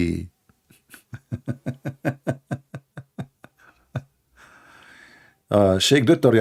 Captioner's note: Ketawa